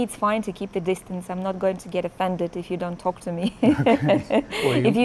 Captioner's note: laughs